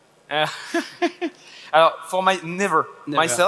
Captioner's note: laughs